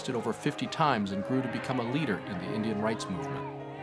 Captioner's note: crowd yelling